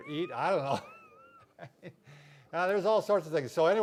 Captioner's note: both laughing